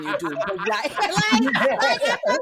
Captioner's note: laughter